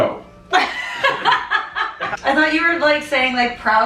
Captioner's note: laughing